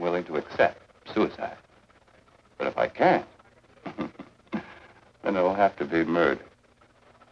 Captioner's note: chuckles